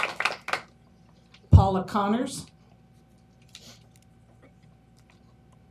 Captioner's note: applause